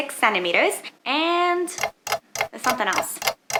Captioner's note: clock ticking